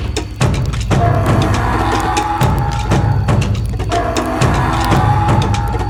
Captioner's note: dinosaur growling continues